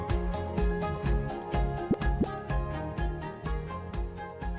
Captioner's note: graphic pops